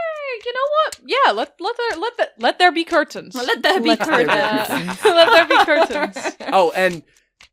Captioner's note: laughter